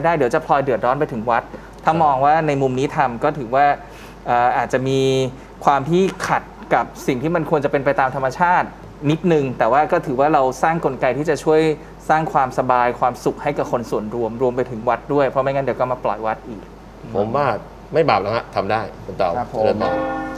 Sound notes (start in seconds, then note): none